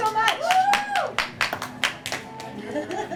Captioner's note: applause